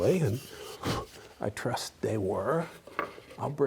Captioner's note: he blows